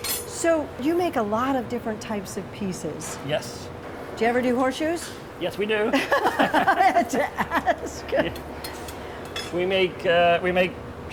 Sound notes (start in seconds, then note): 6.0 laughing